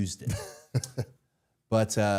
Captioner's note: Matt laughs